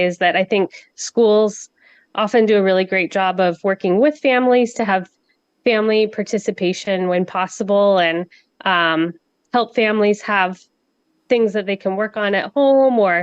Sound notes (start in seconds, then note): none